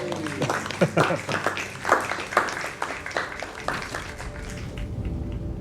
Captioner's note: applause